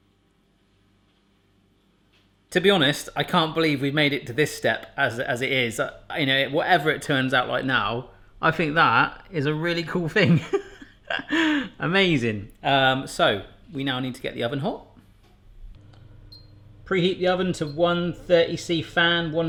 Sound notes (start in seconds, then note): 10.2 laughs; 15.7 oven beeps